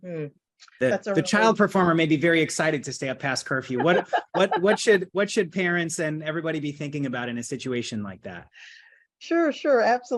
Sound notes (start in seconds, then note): 3.6 laughs